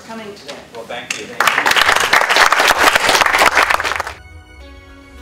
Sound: applause

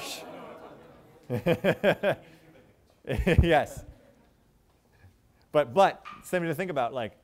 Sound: chuckles

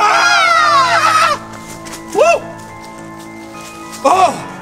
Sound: ghost screams; screams

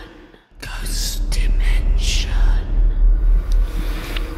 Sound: whispering Voices

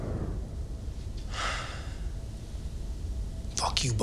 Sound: sighs

